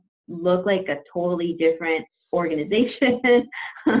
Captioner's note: laughs